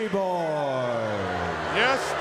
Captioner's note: crowd cheering